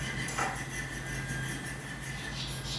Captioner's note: filing in the background